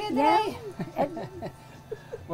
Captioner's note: laughs